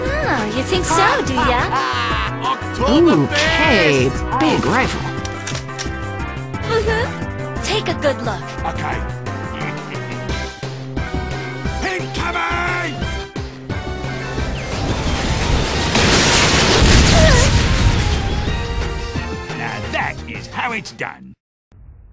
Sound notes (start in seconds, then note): 9.5 soldier chuckles; 14.1 missile flies in; 17.0 bang!; 18.1 moans